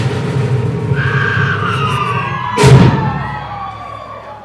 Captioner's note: cheering